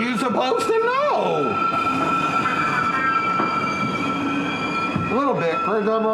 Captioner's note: train brakes screeching